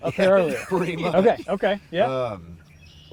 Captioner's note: hunters laughing